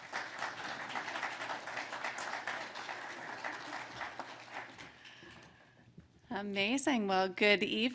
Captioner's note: applause